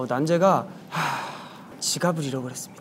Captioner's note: sighing